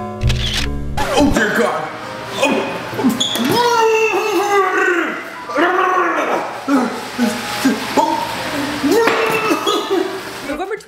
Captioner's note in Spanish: ¡vomito!